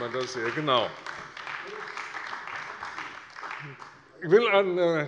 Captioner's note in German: Beifall bei der CDU